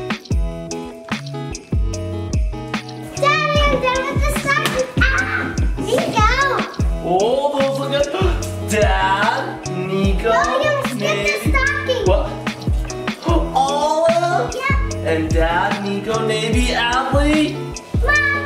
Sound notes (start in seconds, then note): 0.1 mellow music continues; 4.9 candy cane smacks; 4.9 yells; 12.2 gasps